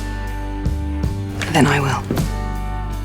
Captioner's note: voiceover